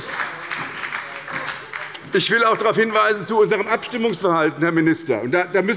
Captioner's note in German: Heiterkeit und Beifall bei der SPD und der FDP